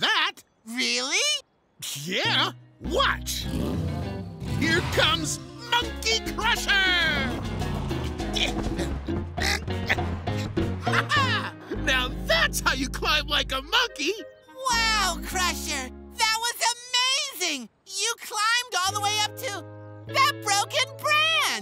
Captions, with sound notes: - Really? - Yeah. Watch. Here comes Monkey Crusher! [grunting] Ha-ha! Now that's how you climb like a monkey! Wow, Crusher! That was amazing! You climbed all the way up to that broken branch!